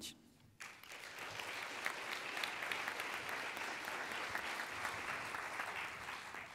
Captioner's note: applauding